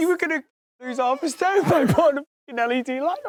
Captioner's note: laughing